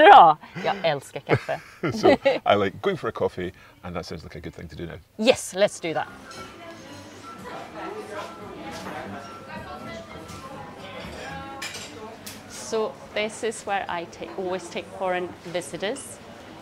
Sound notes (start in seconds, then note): 0.2 speaking Swedish; 8.1 people chattering indistinctly